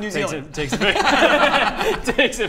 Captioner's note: laughs